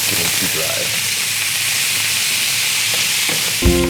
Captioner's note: sizzling; uplifting music